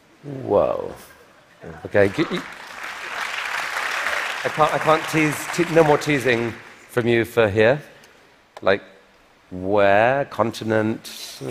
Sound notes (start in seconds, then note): 1.9 applause